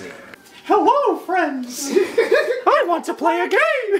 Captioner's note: Mickey Mouse voice